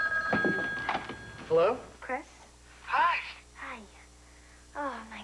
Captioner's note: telephone rings